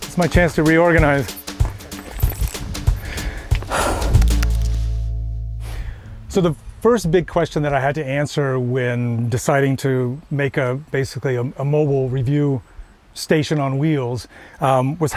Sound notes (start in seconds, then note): 0.0 upbeat music; 3.0 panting; 4.4 keyboard clacking